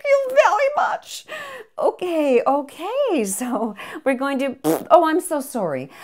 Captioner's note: BS farts